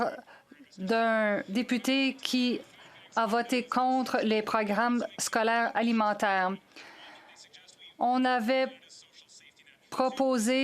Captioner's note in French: voix de l'interprète